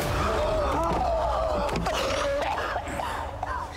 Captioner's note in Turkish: Öksürüyor